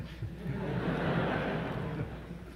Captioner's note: laughter